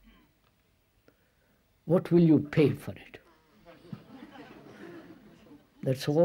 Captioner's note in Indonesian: Tertawa